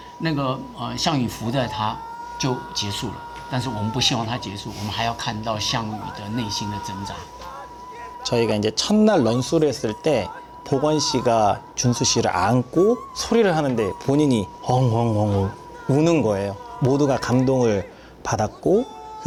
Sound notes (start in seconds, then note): 6.7 Xiang Yu screaming out; 8.1 speaking in Korean